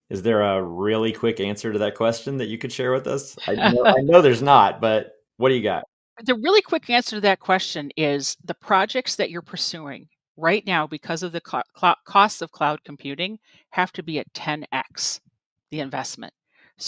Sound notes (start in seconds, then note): 3.4 chuckles